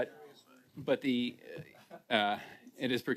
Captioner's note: laughter